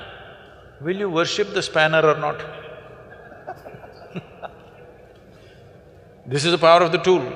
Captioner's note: laughter